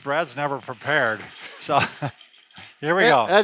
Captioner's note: chair scrapes along the floor